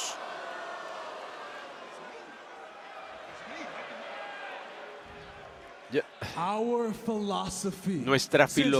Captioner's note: applause